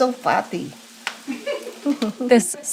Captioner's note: both chuckle